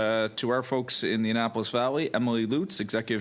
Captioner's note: speaking French